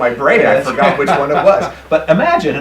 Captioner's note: laughing